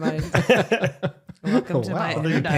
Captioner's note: all laughing